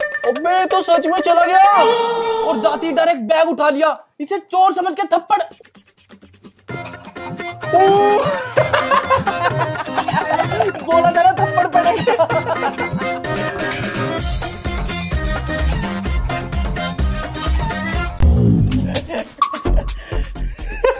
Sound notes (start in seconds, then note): 5.6 beating; 8.5 laughing